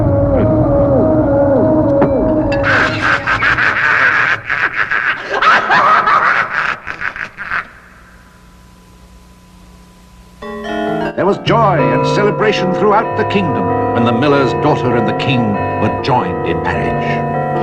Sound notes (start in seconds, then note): 6.9 cackling; 10.0 bells Ringing